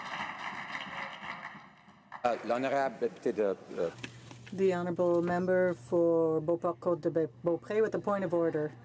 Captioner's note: some Applause